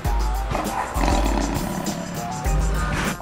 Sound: tiger growl

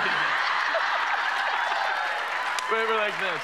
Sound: laughter

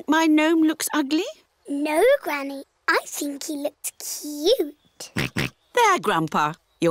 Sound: oinks

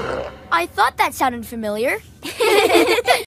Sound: pups Giggle

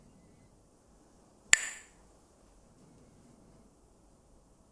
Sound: clacks the sticks

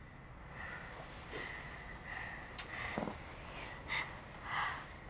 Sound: faint staggered breathing

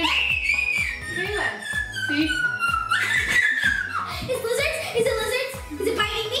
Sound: screaming

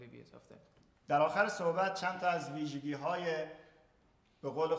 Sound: speaking in farsi

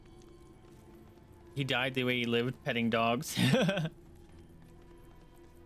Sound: laughs

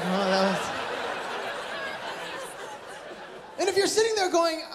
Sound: laughter

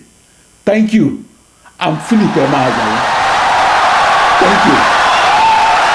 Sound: wild applause and cheering for 17 seconds

